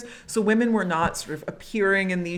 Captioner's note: none